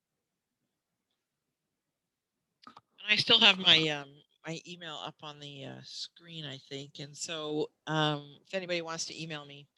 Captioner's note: silence